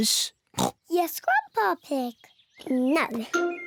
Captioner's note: oinks